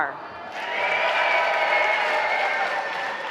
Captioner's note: applause